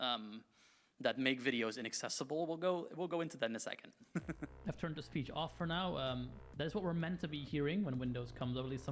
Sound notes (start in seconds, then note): 4.1 chuckles